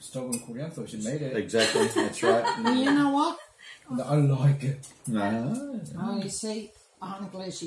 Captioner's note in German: Gelächter